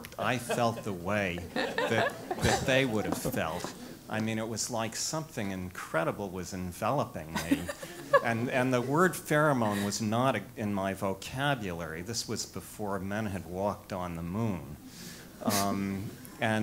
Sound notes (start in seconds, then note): 7.3 laugh